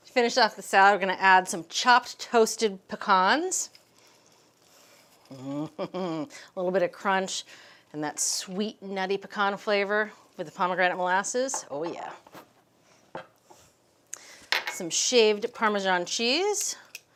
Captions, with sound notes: To finish off the salad, we're gonna add some chopped toasted pecans. (chuckles) A little bit of crunch. And that sweet, nutty, pecan flavor with the pomegranate molasses, oh, yeah. Some shaved Parmesan cheese.